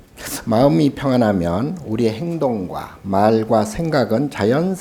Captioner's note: speaking Korean